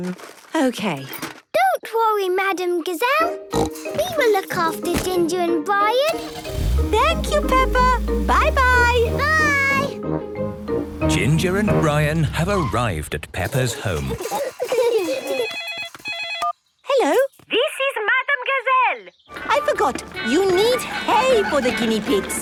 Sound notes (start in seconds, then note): 3.5 snorting; 13.5 giggling; 15.1 phone ringing